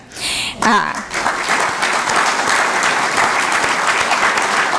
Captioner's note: applause